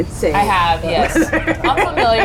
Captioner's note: laughs